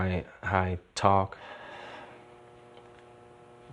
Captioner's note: exhales